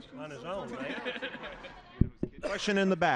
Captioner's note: laughter